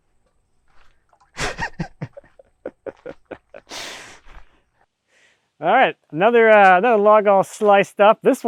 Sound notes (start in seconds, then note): 1.3 chuckling